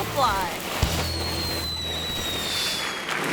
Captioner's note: firecracker hissing; audience applauds